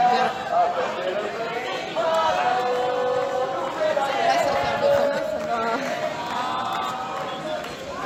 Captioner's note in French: Chants : MACRON NOUS FAIT LA GUERRE, ET SA POLICE AUSSI !